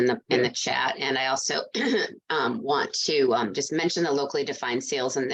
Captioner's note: coughs